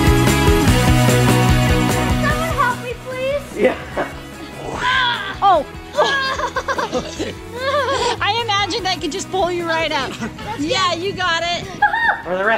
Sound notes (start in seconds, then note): 4.4 grunts